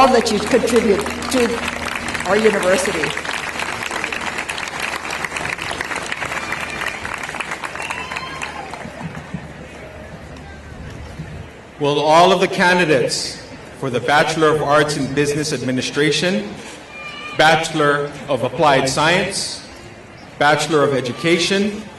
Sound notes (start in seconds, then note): 2.9 applause